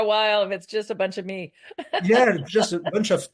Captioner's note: laughs